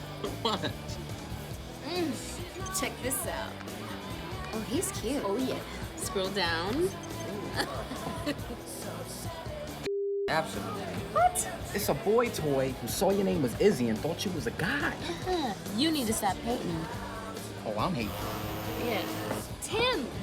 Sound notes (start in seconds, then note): 0.1 laughing; 7.2 laughs; 15.4 scoffs; 18.6 phone vibrates